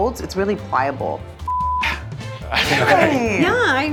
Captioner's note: beep